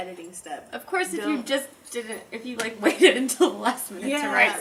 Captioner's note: laughing